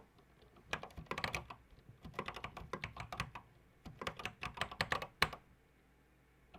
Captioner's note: typing on a C64 keyboard